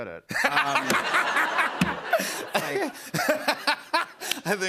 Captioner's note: laughter